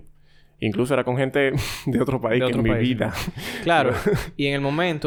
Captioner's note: laughs